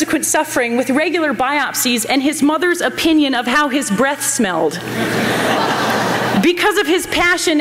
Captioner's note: laughter